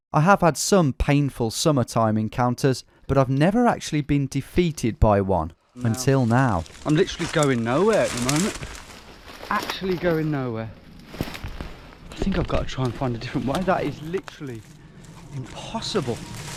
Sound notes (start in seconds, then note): none